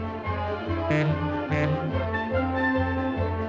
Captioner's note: monorail horn